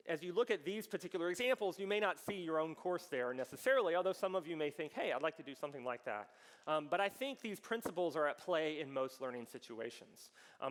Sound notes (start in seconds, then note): none